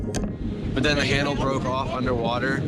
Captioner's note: snap